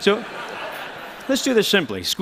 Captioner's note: laughter